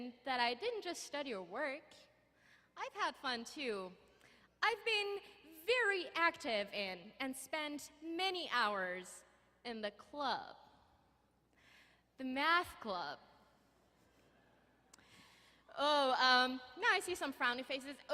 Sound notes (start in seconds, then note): none